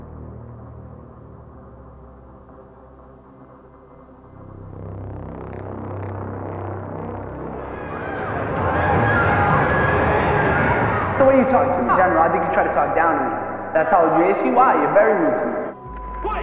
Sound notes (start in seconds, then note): 4.3 tense music continues; 7.7 group cheering